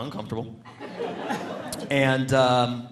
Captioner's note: audience laughing